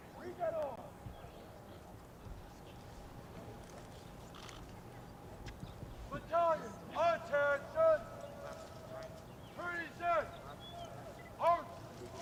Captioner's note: shouted commands